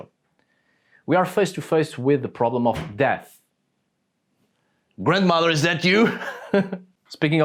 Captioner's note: door opening in the background